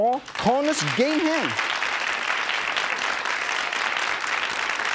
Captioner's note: audience applause